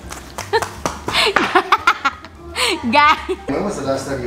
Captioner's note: laughs